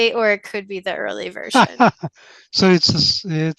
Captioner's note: laughs